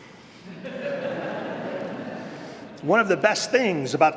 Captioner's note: laughter